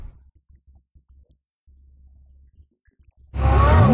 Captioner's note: in Spanish